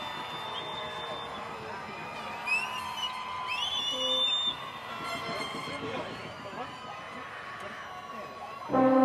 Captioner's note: applause